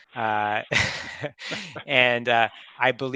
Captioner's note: group laughs